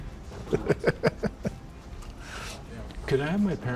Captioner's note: chuckles